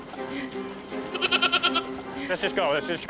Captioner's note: goat bleating